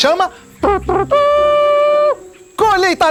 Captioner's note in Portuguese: Imita corneta com a boca